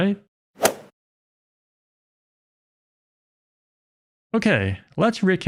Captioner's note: golf ball hit sound effect